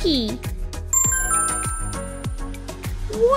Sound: ding!

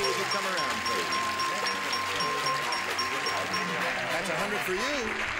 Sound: dings; audience applause

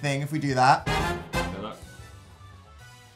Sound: hide your eyes noise

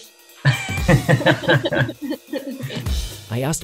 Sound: laughs

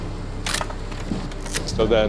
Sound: camera shutter clicking

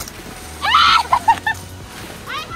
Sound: shriek; laughter

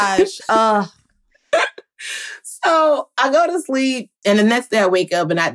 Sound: laughing

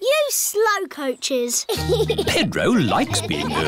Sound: giggles

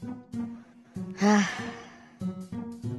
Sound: sigh

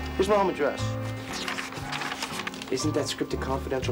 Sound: papers shuffling

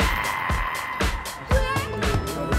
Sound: growling

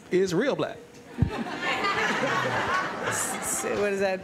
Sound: laughter

